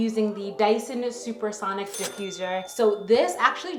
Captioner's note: bell dinging